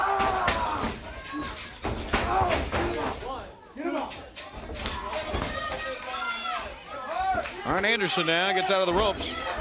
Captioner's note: crowd cheering